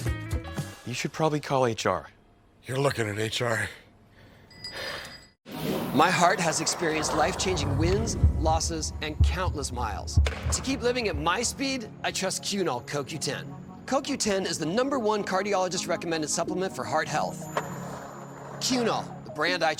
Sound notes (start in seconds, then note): 17.6 skateboard wheels roaring